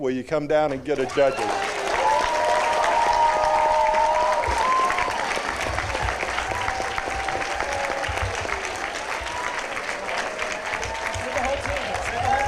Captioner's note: applause, cheering